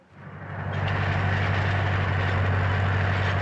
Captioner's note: whirring